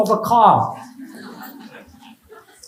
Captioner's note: laughs